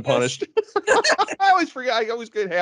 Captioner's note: laughing